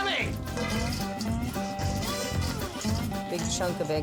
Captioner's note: fries swish